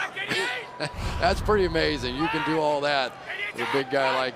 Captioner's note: chuckles